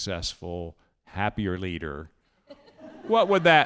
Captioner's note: audience laughing